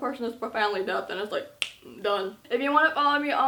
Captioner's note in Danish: knibser fingre